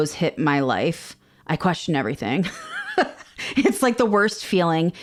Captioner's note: laughs